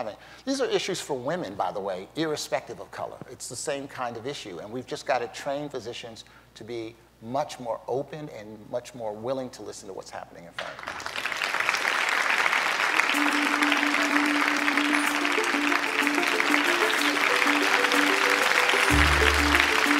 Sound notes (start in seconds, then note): 10.6 applause